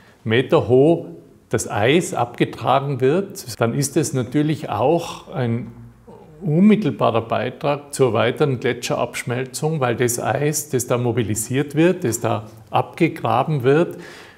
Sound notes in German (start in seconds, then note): none